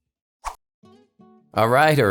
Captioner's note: swiping out